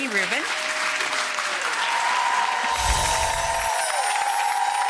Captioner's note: audience applauding